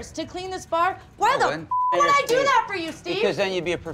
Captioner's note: beep